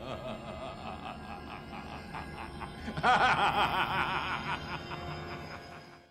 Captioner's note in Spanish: risa maléfica